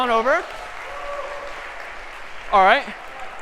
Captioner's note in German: applaus